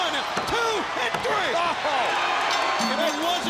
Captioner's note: bell ringing